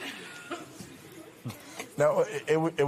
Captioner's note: audience murmurs